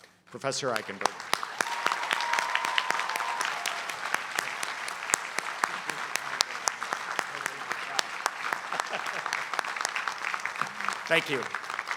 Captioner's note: applause